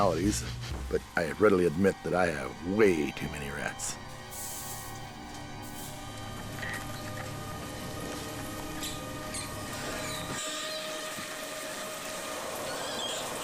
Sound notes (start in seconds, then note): 7.5 squeaking; 9.4 ominous music